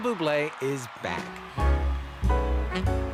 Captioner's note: cheers and Applause